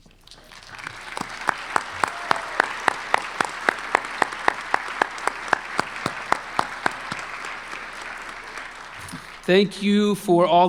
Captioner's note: applause